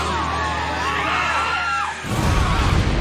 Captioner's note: crowd screaming